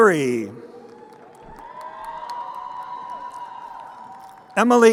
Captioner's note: crowd cheering